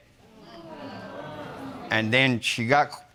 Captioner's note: audience murmuring